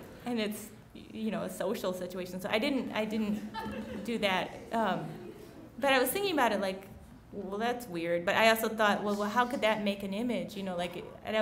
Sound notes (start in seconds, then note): 5.0 laughing